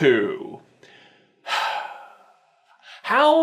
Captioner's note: sigh